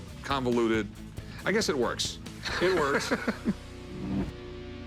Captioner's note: laughs